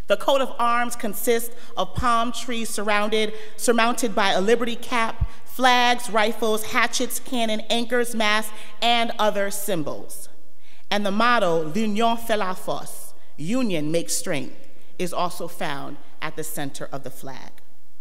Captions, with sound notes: The coat of arms consists of palm trees surrounded surmounted by a liberty cap, flags, rifles, hatchets, cannon, anchors, mask, and other symbols. And the motto (speaks in foreign language), union make strength, is also found at the center of the flag.